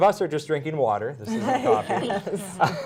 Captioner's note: laughter